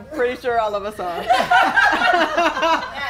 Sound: laughing

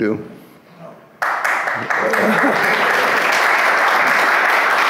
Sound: audience claps

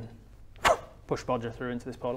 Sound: pwwff

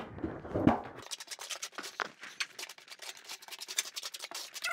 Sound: trowel scraping

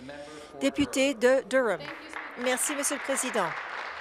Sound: applause

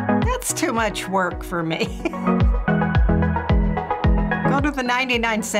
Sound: upbeat music; laughs

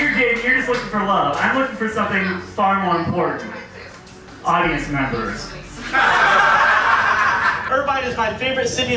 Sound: laughs

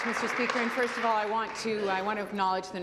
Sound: applause

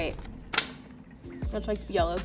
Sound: ticket clicking

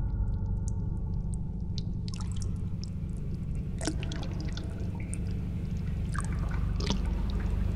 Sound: haunted splish splashing

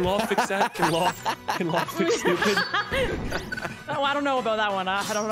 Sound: laughs

